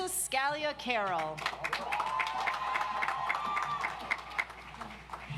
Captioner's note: audience applauds